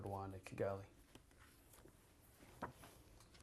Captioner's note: pauses for 3 seconds